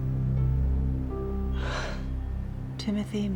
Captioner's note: exhales